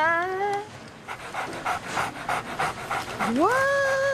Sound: panting

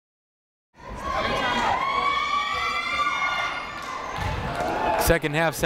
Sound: people cheering in the crowd

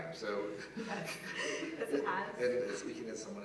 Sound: laugh

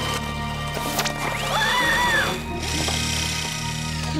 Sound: scream

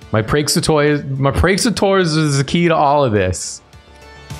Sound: slurred

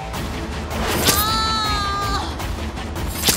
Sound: screams

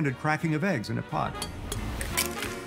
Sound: bowl clinks; egg cracks

